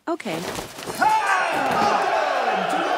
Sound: crowd cheers

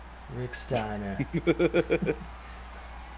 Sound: laugh

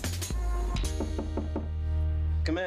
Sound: knock on door

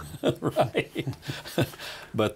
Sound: laughs

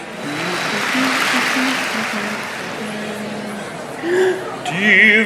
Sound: humming

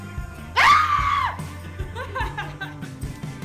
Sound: screaming

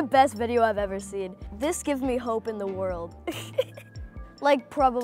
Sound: laughs

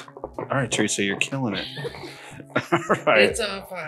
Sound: laughs

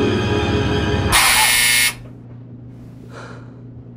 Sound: washer buzzer

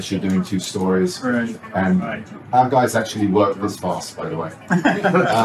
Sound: laughter

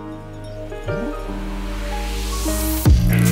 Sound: riser

